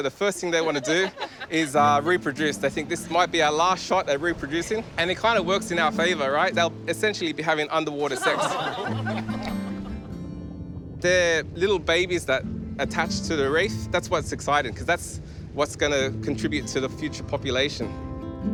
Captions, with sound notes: So the first thing they want to do is reproduce. They think, "This might be our last shot at reproducing." It kind of works in our favour, right? They'll essentially be having underwater sex. (LAUGHTER) They're little babies that attach to the reef. That's why it's exciting because that's what's going to contribute to the future population.